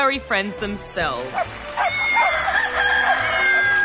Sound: barking, meowing, rooster crows

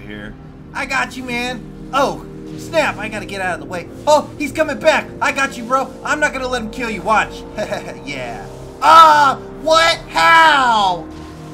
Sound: satisfied laughter

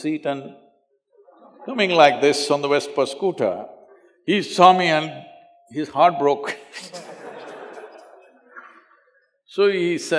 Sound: laugh

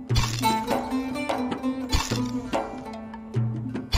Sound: camera shutter snapping

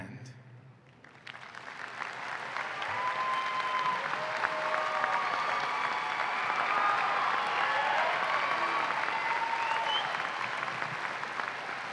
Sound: applause and cheering

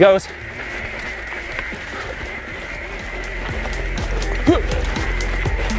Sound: gears grinding

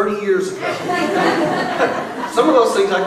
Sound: laughing

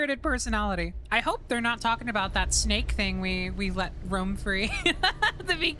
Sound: laughter

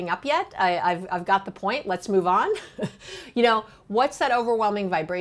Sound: chuckling

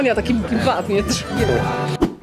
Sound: imitating the sound of a horse being whipped

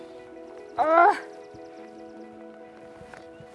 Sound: grunts

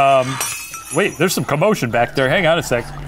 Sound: laughs; glass smashes; whispering

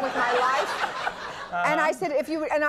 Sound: audience laughing

